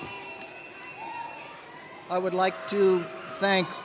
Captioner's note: cheers and applause